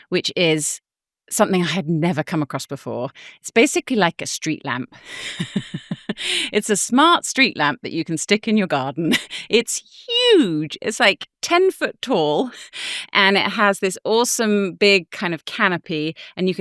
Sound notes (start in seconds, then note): 5.0 chuckles